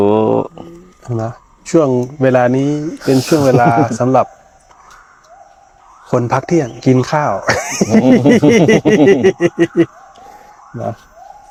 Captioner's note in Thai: เสียงหัวเราะ